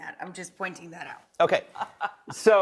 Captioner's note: laughing